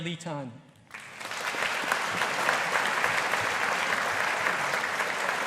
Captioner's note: audience applauding